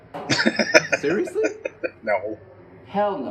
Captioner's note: laughing